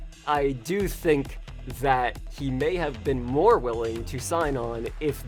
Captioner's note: none